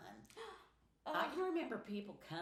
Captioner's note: sighs